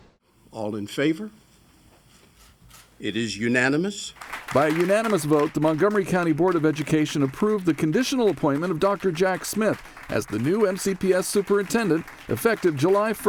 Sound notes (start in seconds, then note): 6.0 appuse